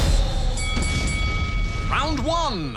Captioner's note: bell dings